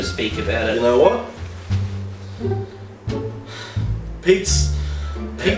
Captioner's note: sigh